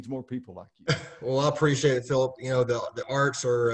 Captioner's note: laughs